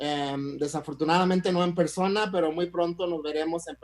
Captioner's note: speaks in Spanish